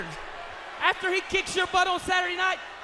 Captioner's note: crowd chatter